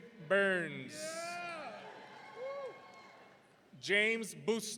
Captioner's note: audience cheering